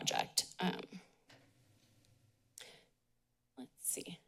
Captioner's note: pause